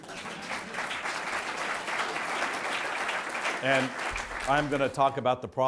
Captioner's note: audience clapping